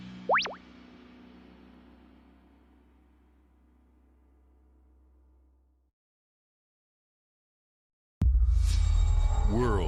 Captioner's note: beeping